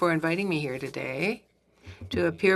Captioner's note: speaking French